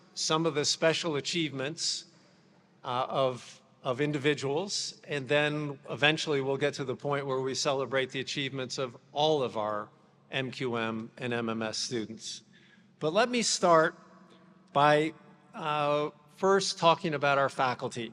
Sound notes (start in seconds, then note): none